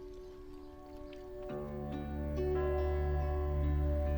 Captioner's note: bell chiming